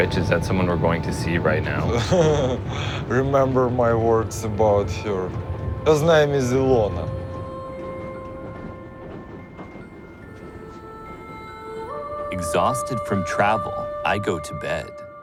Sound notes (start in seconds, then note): 1.6 laughs